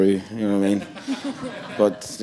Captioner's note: audience laughing